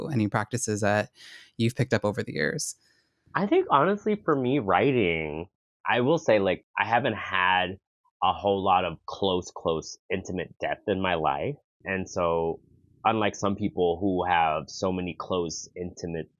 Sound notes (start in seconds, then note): none